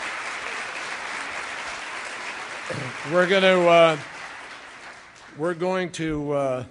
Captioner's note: applause